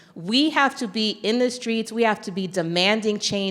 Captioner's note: none